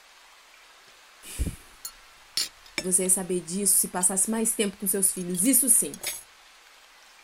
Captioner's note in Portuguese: O silêncio toma conta, com apenas o barulho da chuva e dos talheres ao fundo; JÉSSICA - Respira fundo